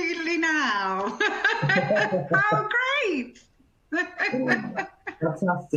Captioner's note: laughs